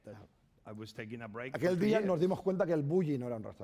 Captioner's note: speaking spanish